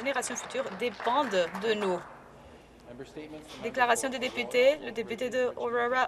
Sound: applause

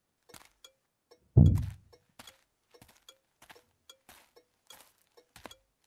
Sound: door Closed Sound; car Indicator sound

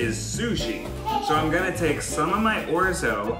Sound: laughs

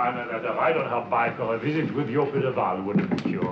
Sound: none

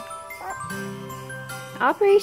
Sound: gently chiming bells

